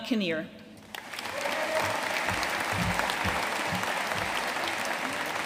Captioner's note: audience cheering and applauding